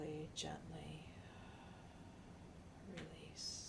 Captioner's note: sighing